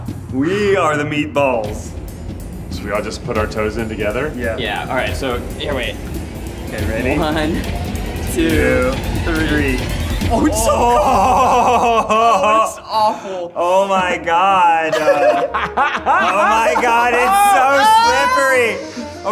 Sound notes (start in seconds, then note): 10.1 all laughing; 14.8 Keith laughs